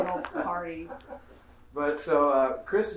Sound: laughing

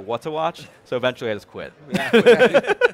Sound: laughs

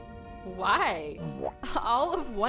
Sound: none

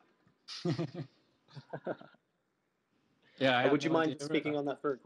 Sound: men laugh

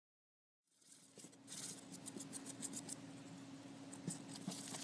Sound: skittering noises of Q-Tip's nails on the cardboard

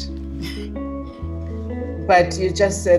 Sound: chuckles

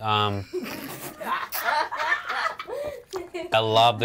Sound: all laughing

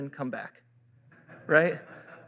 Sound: laughter

